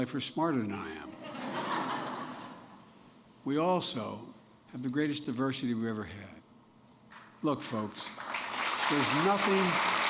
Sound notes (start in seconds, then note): 1.1 laughter; 7.8 applause